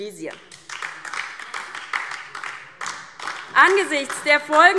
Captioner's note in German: Beifall DIE LINKE